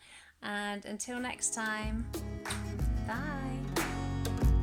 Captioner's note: kiss